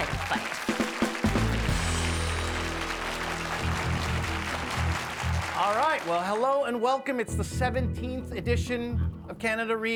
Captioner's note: applause